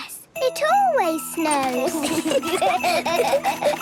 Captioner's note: laughter